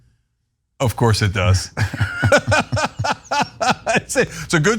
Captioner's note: laugh